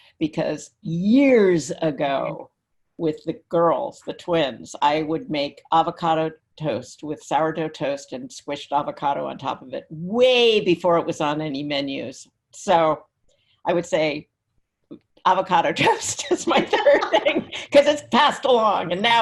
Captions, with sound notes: because years ago with the girls, the twins, I would make Avocado Toast with Sourdough Toast and squished avocado on top of it way before it was on any menus. So I would say Avocado Toast is my third thing (laughs) because it's passed along,